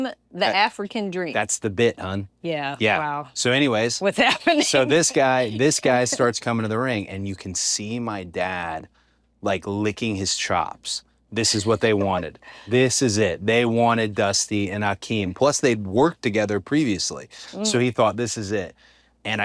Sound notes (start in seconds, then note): 4.3 laugh